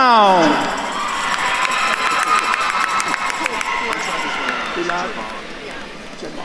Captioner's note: attendees cheering and applauding